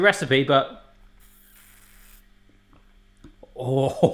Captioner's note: slurps